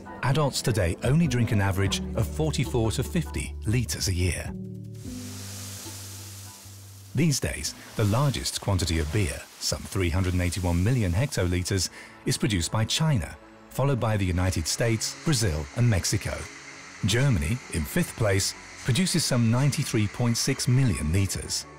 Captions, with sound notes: adults today only drink an average of 44 to 50 liters a year. [rustling grain] These days, the largest quantity of beer, some 381 million hectoliters, is produced by China followed by the United States, Brazil and Mexico. Germany in fifth place produces some 93.6 million liters.